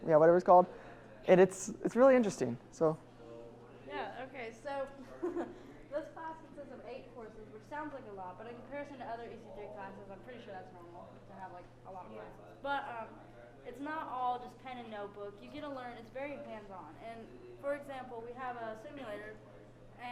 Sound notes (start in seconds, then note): 5.0 chuckles